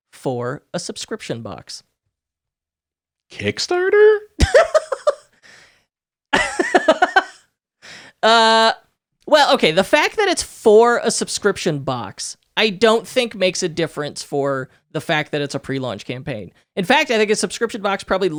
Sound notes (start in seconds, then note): 4.4 laughing